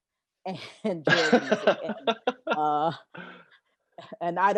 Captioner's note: laughs